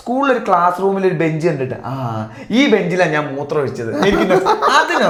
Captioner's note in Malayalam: പൊട്ടിച്ചിരി